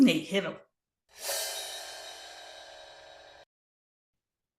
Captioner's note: screen whooshing